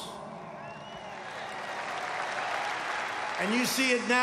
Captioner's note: applause